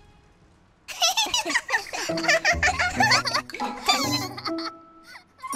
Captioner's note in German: kicher